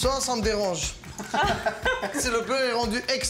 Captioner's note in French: rires